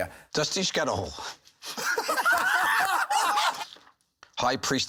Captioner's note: laughter